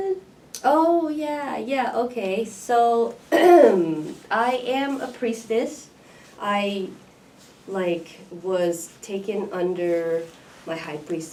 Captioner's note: coughs